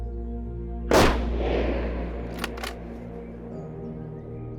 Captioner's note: rifle fires and clacks